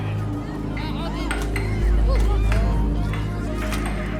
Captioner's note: low mysterious music; puck clicking; people chattering